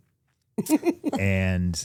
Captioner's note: Steph and Elyse laugh